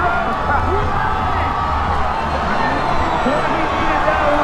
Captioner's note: crowd cheering